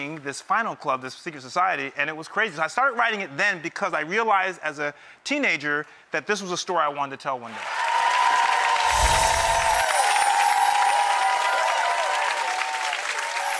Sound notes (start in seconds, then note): 7.5 crowd cheering